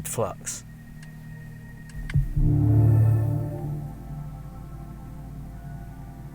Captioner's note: car EV Ambient Sound; car EV Rev Sounds